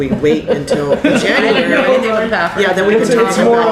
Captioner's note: laughter